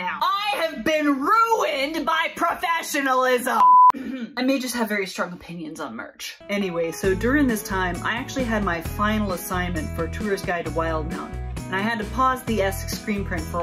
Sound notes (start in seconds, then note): 3.9 cough